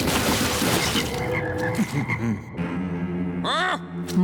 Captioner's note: splat; ribbit